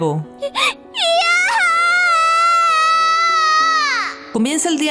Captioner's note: scream